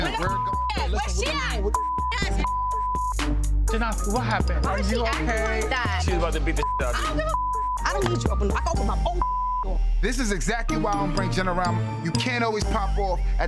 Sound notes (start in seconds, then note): 0.0 beep; 6.5 beep; 9.6 beep